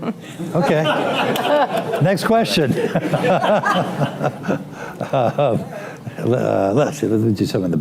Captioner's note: laughter; laughter